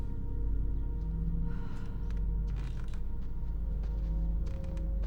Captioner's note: feet pattering